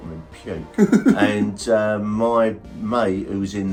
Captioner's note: laughing